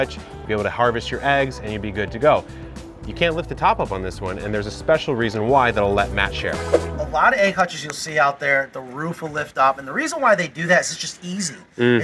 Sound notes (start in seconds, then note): 6.6 whooshing